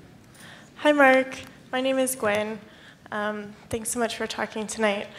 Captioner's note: voiceover